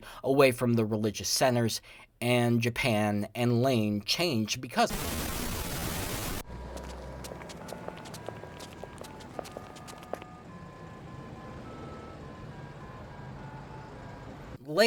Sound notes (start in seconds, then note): 4.8 static discharge; 6.4 footsteps